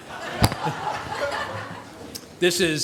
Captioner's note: audience laughs